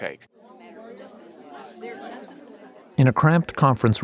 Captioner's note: people talking in background